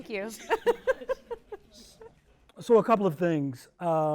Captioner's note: panel laughs